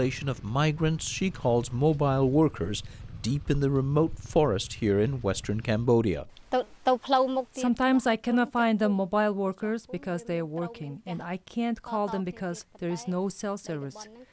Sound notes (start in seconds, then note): 6.8 through translator